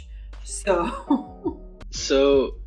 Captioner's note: laughs